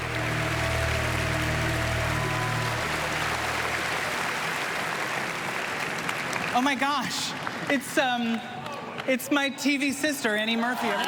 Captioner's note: applause